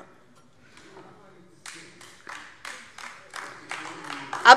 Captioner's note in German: Beifall DIE LINKE